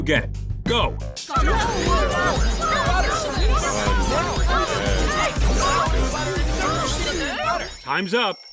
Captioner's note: screaming and muffled voices; timer ding